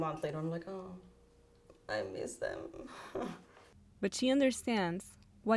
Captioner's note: chuckles